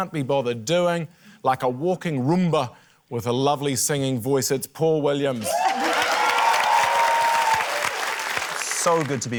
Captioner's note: cheering, applause